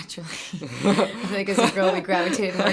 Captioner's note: laughing